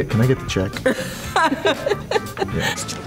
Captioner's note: laughter